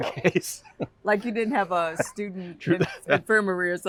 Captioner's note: laughter; laughter